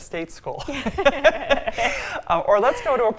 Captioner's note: both laughing